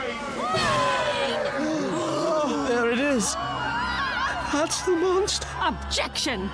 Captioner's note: courtroom gasps and screams